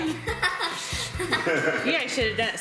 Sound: laughter

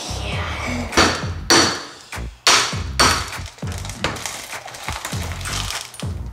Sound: banging

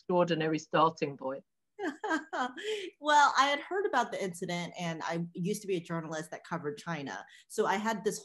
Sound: laughing

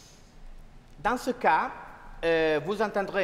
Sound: speaking french

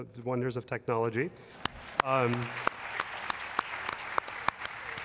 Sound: applause

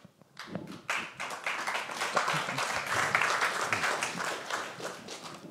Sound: applause

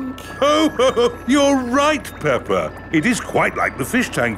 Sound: laughs

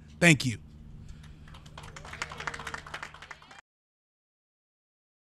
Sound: audience applauds

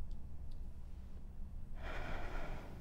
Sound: exhales

